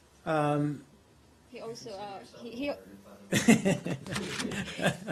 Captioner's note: laughter